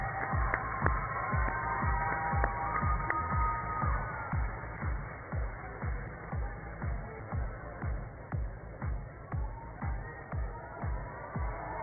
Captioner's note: cheers and applause